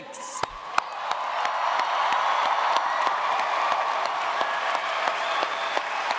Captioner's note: audience cheering; audience applauding